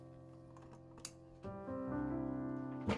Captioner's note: clicking; rustling